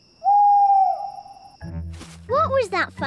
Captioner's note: owl hoots